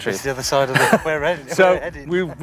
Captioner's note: laughs